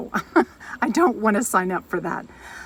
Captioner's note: laughs